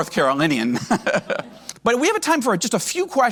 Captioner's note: laughs